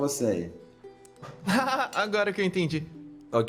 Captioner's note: nervous laugh